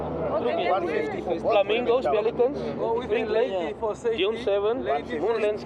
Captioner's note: overlapping chatter